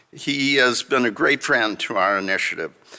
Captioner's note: none